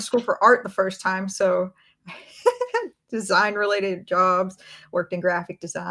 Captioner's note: laughs